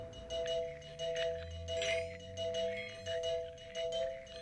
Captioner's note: balls chiming